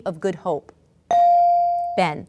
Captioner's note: ding